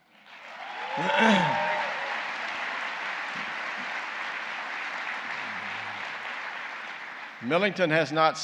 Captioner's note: applause